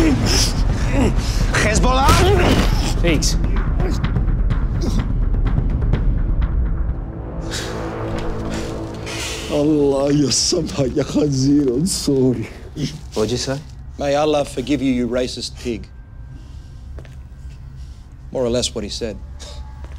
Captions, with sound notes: (drum beat) (grunts) Hezbollah? - Pete. (speaking in foreign language) - What'd you say? - May Allah forgive you, you racist pig. More or less what he said.